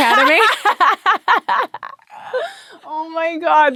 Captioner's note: laughing